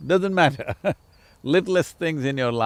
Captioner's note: laughs